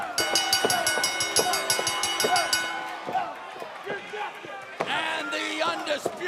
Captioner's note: bell ringing